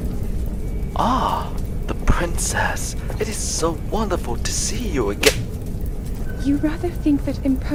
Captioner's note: slap